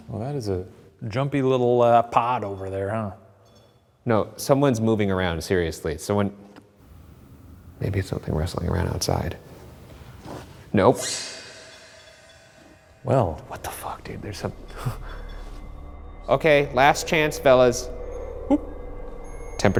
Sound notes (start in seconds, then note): 10.2 footsteps approaching; 11.3 dramatic music; 12.2 REM-pod beeps